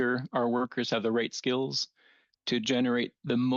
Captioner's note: speaking French